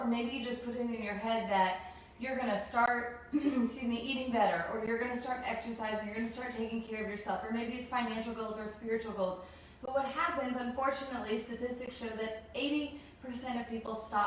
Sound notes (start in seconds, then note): 3.3 clears throat